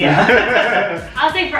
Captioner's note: laughter